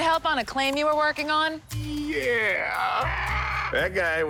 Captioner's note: bird squawks